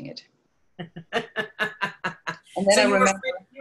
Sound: laughs

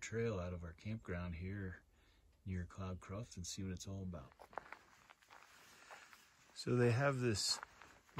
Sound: gravel crunching

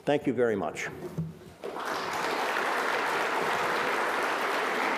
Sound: audience applause

